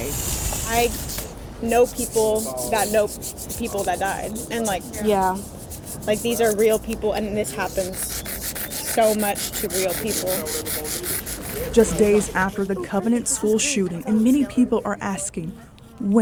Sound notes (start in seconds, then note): 0.2 chalk scraping; 10.4 chalk scraping